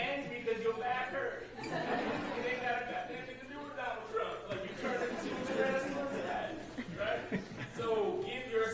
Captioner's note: laughter